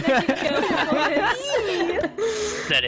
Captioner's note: animated laughter